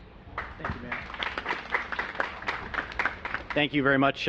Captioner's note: applause